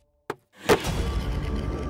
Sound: trunk of the car closes

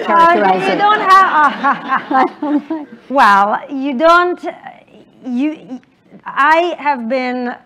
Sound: laughter

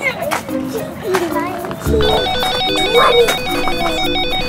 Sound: phone rings

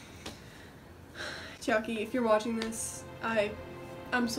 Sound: sighs

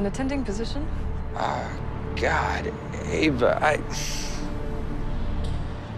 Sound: sighs

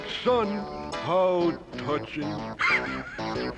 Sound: laughs

